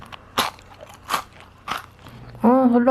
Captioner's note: crunchy sound